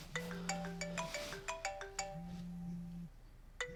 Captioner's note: phone ringing